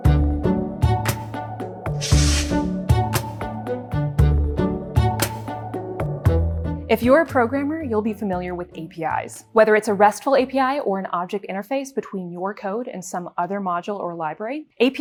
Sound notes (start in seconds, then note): 0.1 mellow music; 2.0 air whooshing